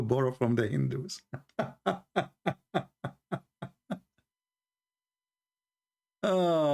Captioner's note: Ketawa; Ketawa